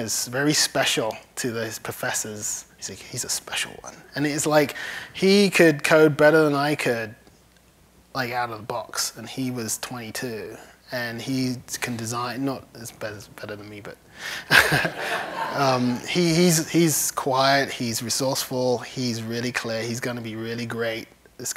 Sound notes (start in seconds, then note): 14.4 laughs